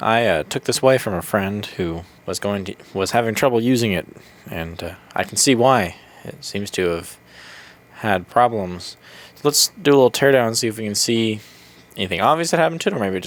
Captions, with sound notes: I took this away from a friend who was going-was having trouble using it and uh, I can see why it seems to have... *breath* had problems let's do a little teardown see if we can see anything obviously happened to it, or maybe it